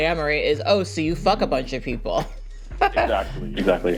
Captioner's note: laughs